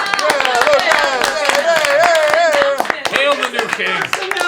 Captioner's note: cheering